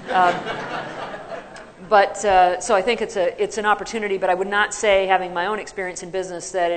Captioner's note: laughter